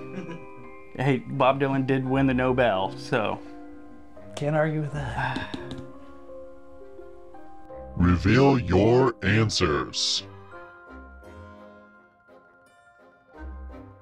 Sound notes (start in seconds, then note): 0.1 giggles; 5.0 sighing; 5.3 fingers tapping; 5.6 mysterious music